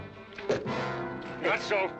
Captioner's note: thump